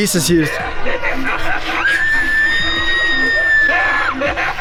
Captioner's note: creepy laughing